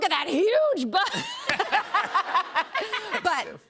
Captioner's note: laughter